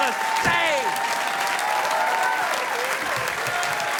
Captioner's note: audience applauding